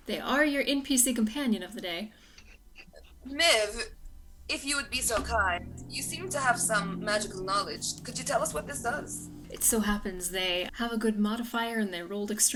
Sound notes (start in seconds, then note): none